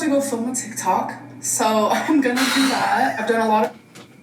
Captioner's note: chuckling